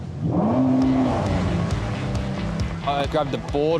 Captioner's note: engine revving